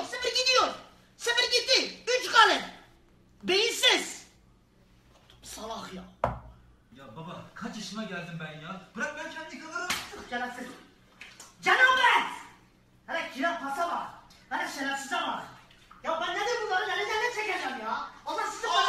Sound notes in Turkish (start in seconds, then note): 9.8 şaplak